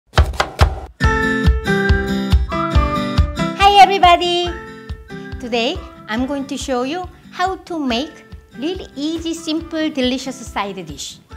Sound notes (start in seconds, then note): 0.1 chopping; 1.4 cheerful music